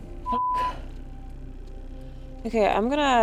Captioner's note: beep